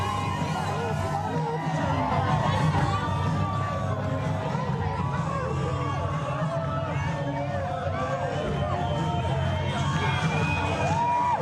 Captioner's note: crowd din